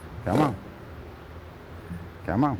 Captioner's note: horse chuffing